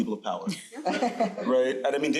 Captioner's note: crowd laughing